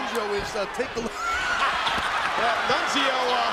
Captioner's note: laughs